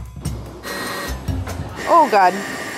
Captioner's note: chill music; whirring